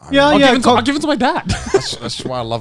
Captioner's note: laughs